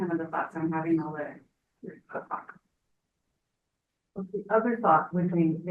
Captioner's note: speaks faintly